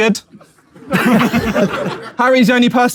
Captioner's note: people in room chuckle